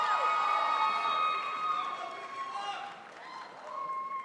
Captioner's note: crowd applauds